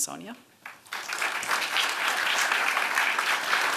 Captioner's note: applause